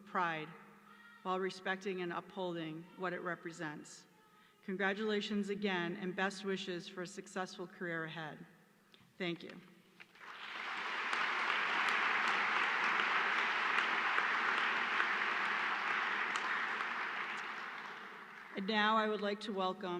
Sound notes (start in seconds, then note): 4.5 applause